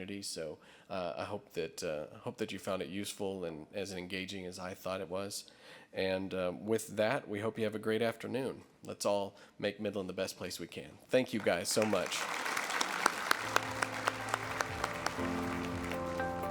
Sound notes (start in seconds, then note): 11.4 audience applause; 15.1 outro music